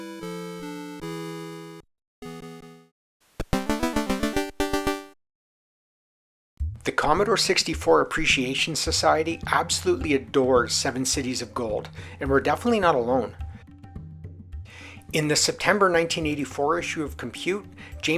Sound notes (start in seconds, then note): 3.4 jaunty C64 sound effect